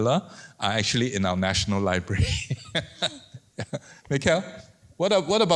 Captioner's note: laughs